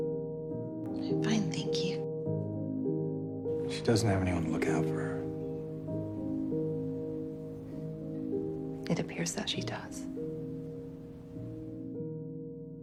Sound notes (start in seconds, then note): 3.8 voiceover